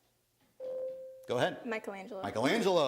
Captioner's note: bell rings